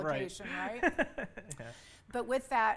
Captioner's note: laughs